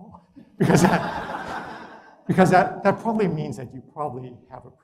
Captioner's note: laugh